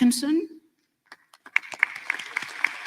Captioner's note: applause